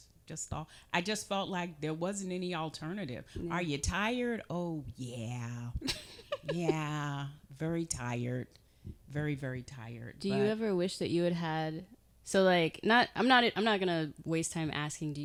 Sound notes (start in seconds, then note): 5.8 chuckling